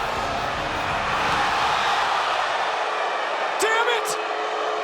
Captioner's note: crowd gasps and boos